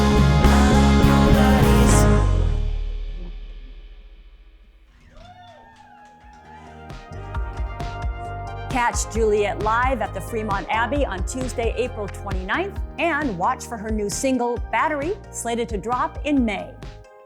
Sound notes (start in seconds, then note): 5.1 cheers and applause